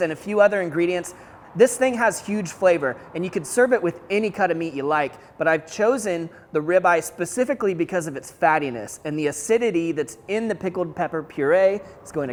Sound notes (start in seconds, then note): none